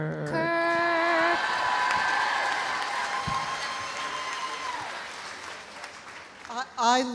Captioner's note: audience applauding; audience cheering